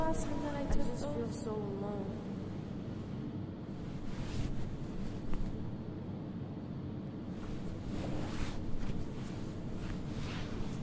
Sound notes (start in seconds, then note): 3.6 bed sheets rustling; 7.3 shifting around in bed